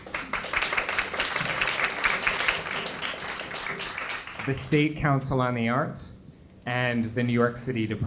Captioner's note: applause